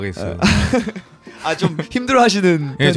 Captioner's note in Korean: 웃음